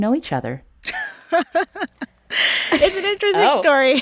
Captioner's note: laughter